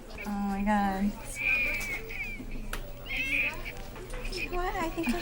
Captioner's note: crying toddler